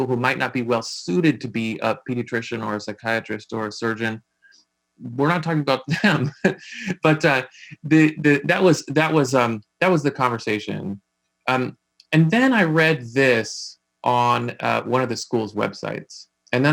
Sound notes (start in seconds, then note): 5.1 laughing